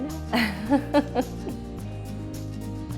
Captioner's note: laughing